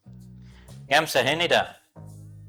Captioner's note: non-english speech